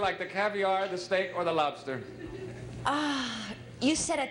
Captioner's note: sighs